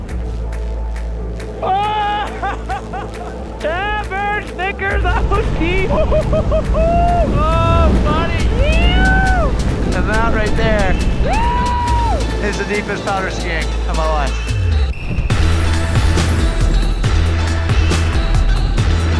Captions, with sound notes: (upbeat music) (man laughing) - Oh buddy! Now that right there is the deepest powder skiing of my life. (upbeat electronic music)